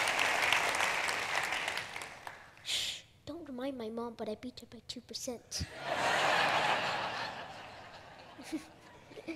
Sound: laughter

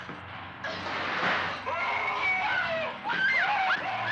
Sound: Pam screaming; man screaming

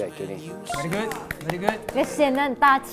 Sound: applause

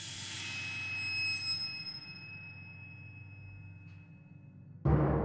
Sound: piercing High Pitch Sound

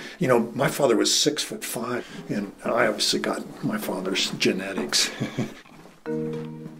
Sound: chuckle

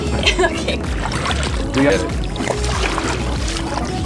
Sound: splashing

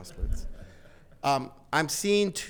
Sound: attendees laughing

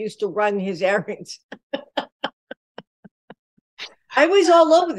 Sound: laughter

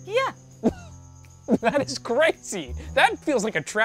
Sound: scoffing

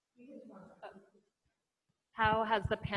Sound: murmuring

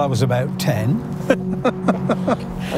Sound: laughing

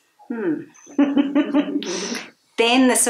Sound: both laughs

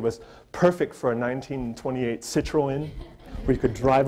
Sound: audience laughter

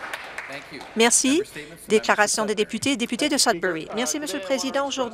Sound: some Applause

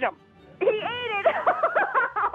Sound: laughing

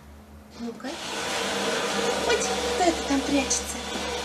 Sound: the sound of the movement of the rack on the floor

